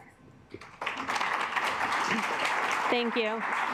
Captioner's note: assembly clapping